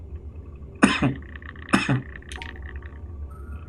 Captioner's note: coughs